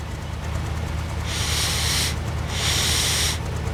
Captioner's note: sniffs in slav